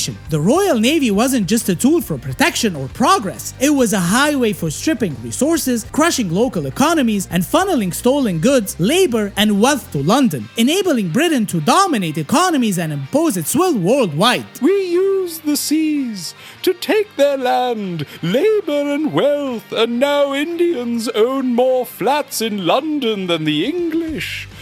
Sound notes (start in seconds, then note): 14.8 pompous